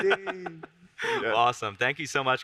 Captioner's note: both laugh